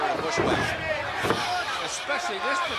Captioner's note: blows thudding